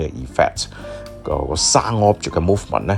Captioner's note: sound movement